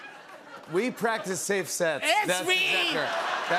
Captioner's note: laughter; laughter